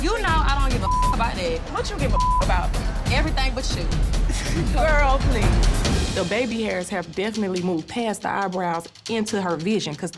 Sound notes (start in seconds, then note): 4.2 laughs